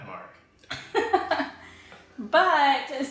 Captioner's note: laughing